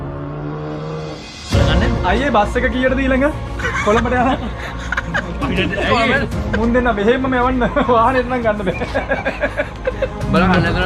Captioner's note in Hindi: हंसते हुए